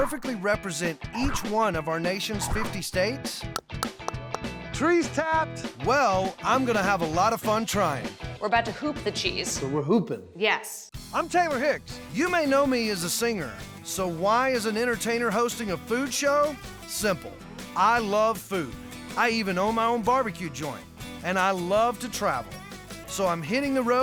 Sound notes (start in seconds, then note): 3.5 tapping